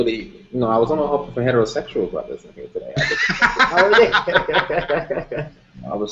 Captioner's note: laughter